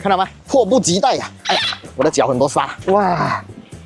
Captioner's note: struggling